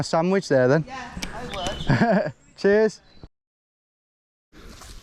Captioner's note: chuckles